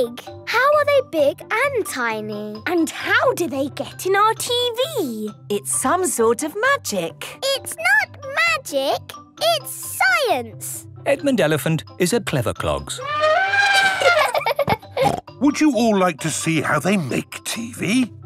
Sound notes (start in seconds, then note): 12.9 trumpeting; 13.3 laughing